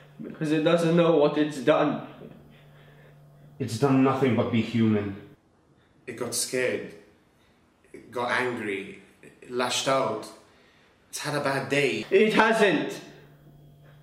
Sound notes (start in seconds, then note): none